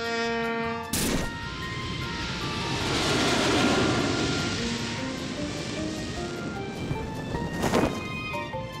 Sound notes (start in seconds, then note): 3.1 plane whirring